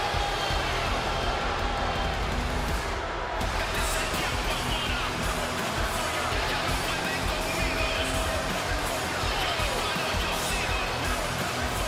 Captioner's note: crowd boos